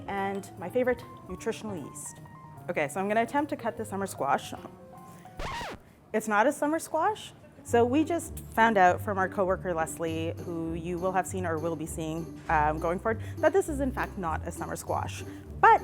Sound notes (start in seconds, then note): 5.4 record scratching